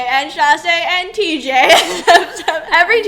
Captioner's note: laughs